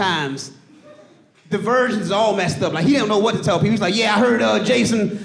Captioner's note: audience laughing